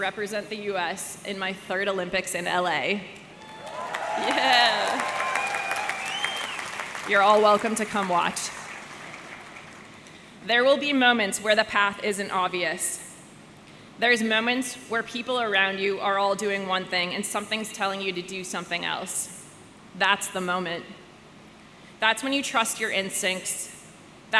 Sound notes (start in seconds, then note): 3.3 audience cheering; 5.2 audience clapping